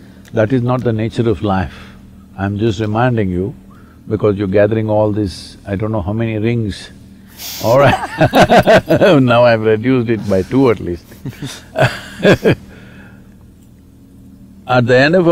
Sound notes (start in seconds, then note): 7.7 laughter; 13.6 laughs